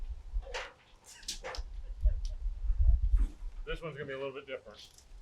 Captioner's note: laughing